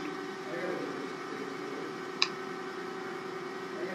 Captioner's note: machine whirling